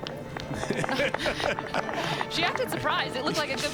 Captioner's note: announcers laughing